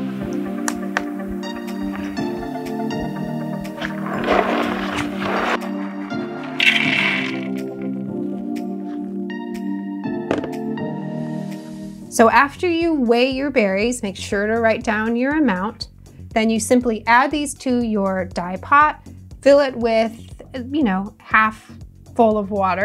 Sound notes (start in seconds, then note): 3.9 berries rumbling; 6.6 berries clunking